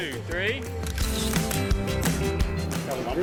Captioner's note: camera clicking; upbeat music